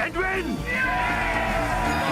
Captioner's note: cheering